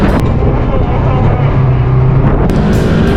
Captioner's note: can hear the distant sound of screaming